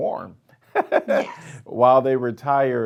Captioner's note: laughing